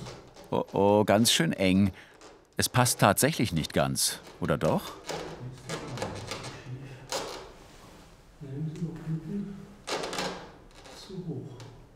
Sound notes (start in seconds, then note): 5.6 creaks